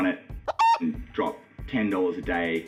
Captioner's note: beep